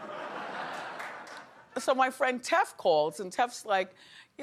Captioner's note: audience laughing